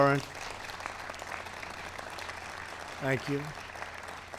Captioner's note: applause